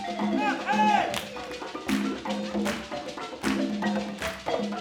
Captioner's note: attendees clapping; upbeat balafon music continues